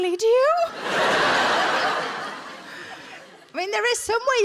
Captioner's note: audience laughs